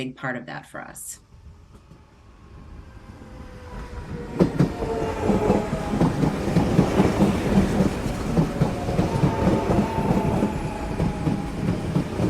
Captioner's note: sounds of electric train pulling into station